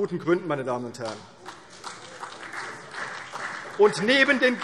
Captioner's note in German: Beifall CDU und vereinzelt BÜNDNIS 90/DIE GRÜNEN